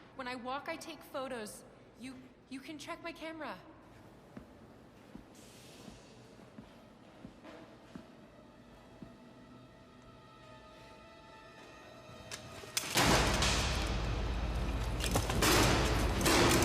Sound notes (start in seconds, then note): 8.2 tense music; 12.9 loud banging